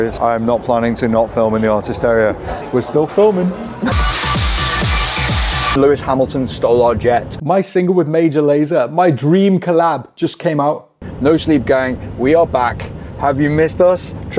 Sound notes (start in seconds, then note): 2.5 upbeat tech music; 5.0 smoke spraying